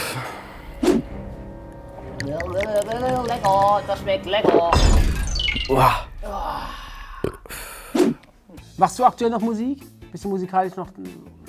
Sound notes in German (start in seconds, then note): 0.1 Er stöhnt; 2.5 Wabernde Laute; 6.3 Er rülpst